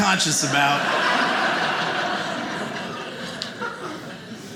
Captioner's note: audience laughing